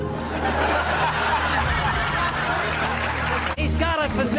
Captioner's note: laughter, applause